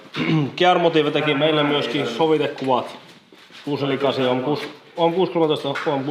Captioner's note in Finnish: rykäisee